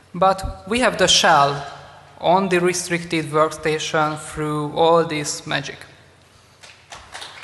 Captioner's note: applause